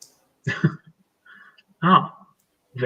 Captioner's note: laughs